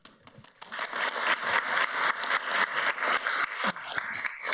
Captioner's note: audience applauds